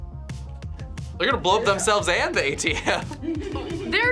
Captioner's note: laughs